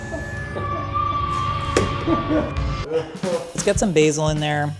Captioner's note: crew quietly laughing